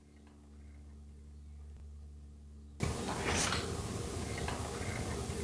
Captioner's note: disembodied Voice